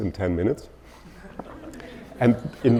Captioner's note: audience laughing